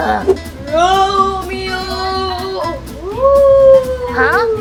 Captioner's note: ghostly calling